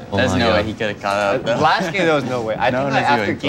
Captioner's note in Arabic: ضحك